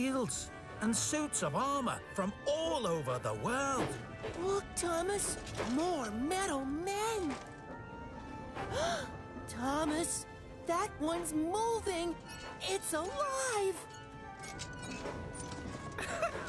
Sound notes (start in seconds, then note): 8.7 gasps; 16.0 laughs